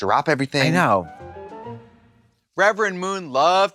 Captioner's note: bright chime